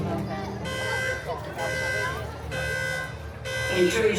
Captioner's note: alarm blaring